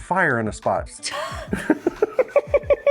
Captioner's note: laughter